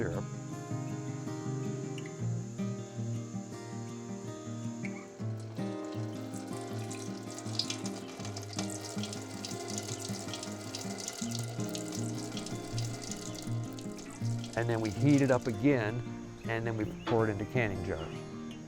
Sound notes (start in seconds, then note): 0.2 gentle music; 5.3 syrup pouring; 11.5 gentle music continues